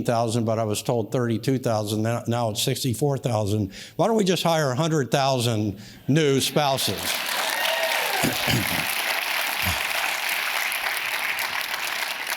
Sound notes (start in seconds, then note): 6.8 audience cheers and claps